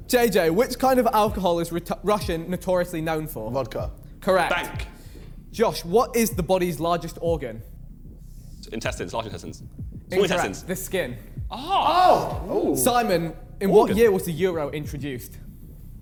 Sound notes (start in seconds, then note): 11.4 men exclaiming